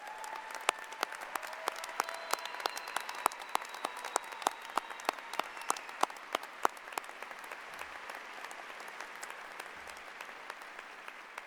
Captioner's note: applause